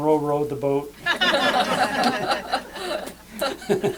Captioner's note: laughter